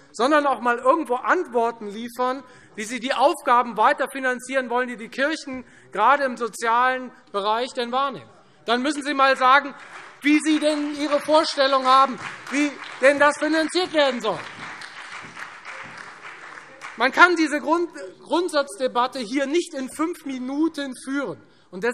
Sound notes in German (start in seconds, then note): 8.3 Beifall Freie Demokraten, CDU, BÜNDNIS 90/DIE GRÜNEN und SPD